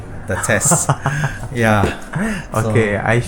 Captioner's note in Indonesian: tertawa